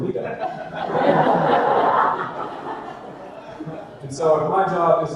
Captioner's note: audience laughter